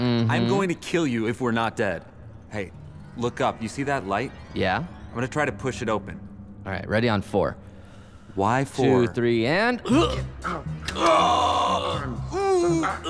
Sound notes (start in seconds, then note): 9.8 grunts; 9.8 both groaning